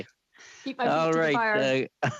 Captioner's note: laughter